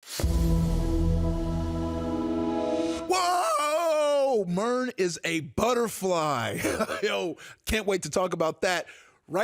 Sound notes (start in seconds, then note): 0.0 chiming music; 6.3 laughs